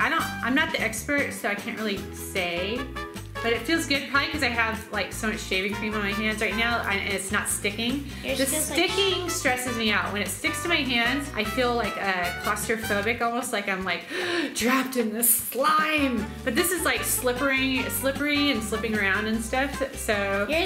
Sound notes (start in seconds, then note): 14.0 gasps